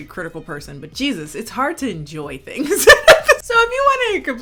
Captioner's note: chuckling